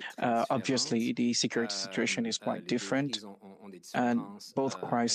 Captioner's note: speaking French